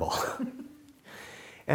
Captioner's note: laughing